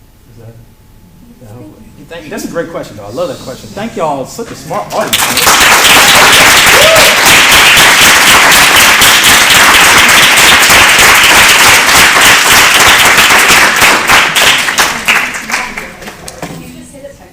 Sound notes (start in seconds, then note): 5.4 applause